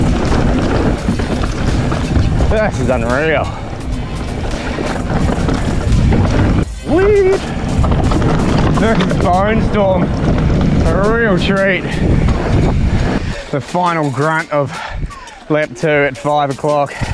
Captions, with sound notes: This is unreal. Sweet! This is Bonestorm! A real treat! (bike clatters) The final grunt of lap two at five o'clock.